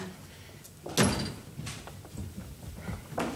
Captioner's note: door slams